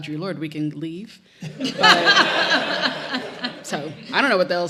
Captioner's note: audience laughs